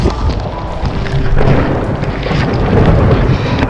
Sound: thunder

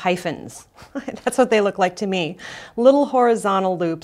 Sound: laughs

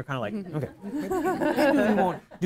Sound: audience chuckles

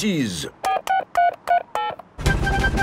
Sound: dialing

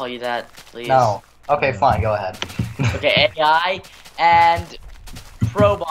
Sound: slight laughter

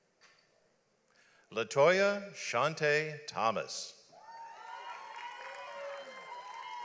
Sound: audience applauds

